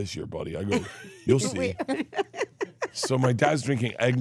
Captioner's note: Steph laughs